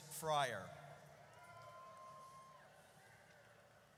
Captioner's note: audience cheers